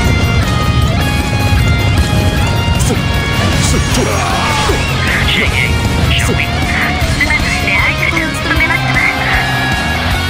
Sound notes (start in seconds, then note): 3.8 radio Chatter Custom Dialogue